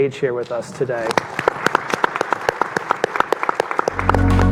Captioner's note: audience clapping